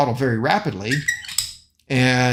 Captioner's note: throttle squeaking